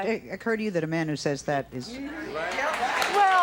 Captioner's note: audience applauding